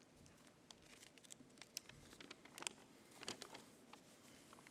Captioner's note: paper crinkles